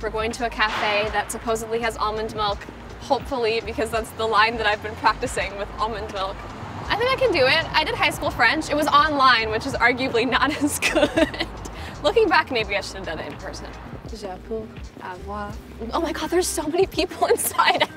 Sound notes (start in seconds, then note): 10.4 Madelaine laughs